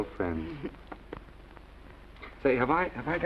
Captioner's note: Esther giggling